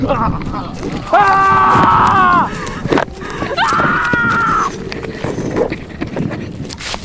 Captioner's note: Paulo and Lyudmyla scream in despair